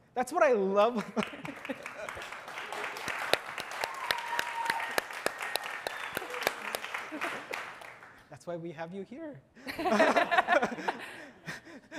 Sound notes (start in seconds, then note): 3.6 audience applauding; 9.6 all laughing